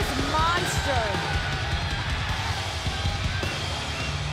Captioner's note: crowd cheering